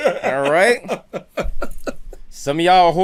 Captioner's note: laughter